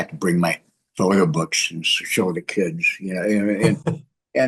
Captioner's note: laughs